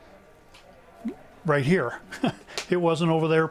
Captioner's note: chuckles